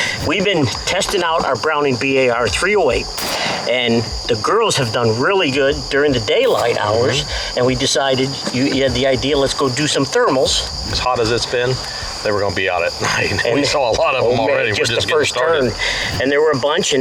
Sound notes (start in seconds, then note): 3.1 gunshot